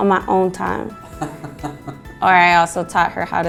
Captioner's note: laughs